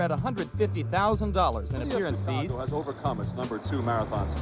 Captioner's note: man over TV